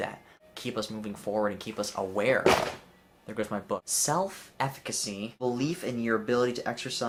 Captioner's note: whack